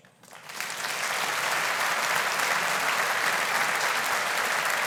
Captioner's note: audience applauding